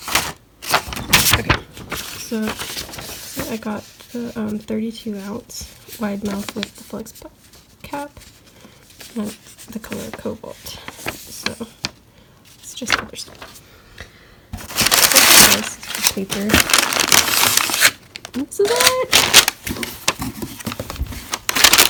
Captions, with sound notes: Ok. So-- so I got the,um, 32 ounce, wide-mouth with the flex cap in the color Cobalt. [paper crinkling] So. That's just other stuff [paper crinkling] This is just paper. This is it!